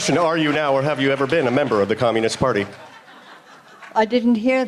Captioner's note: applause